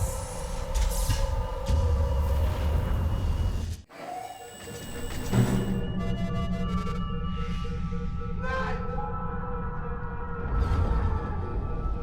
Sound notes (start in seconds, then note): 4.2 alarm sounding